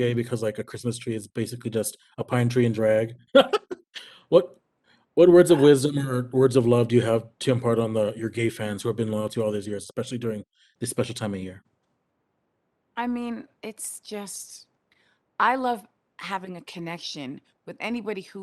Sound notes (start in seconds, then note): 3.3 chuckles; 3.3 laughs